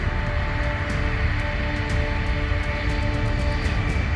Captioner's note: dramatic music; plane engine rumbling